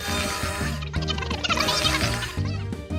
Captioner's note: high-pitched babble